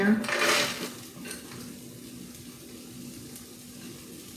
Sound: pan sizzling

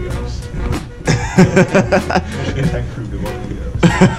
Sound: laughter

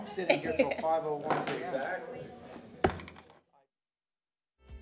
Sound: sounding gavel

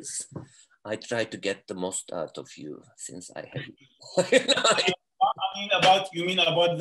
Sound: laughs

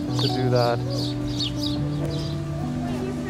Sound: brid chirps

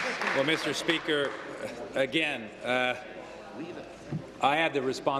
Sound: applause

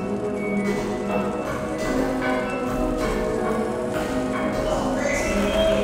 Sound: running footsteps

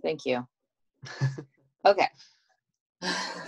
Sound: laughs

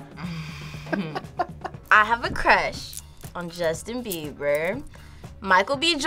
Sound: React laughs

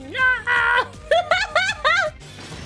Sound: laughing

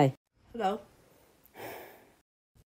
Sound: sigh

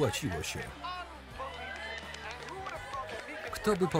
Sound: audience cheering

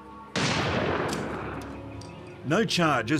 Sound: gun fires

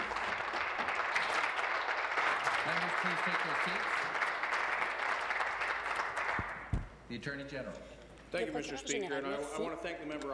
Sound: applause

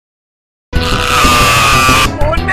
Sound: Pelo Scream

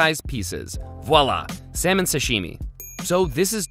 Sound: bell dings

